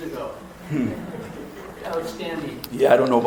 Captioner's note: audience laughs